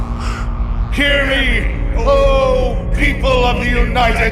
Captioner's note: laughing; with booming echoed voice